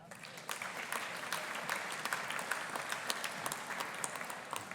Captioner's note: audience applauding